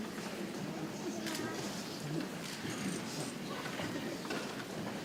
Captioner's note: people chattering softly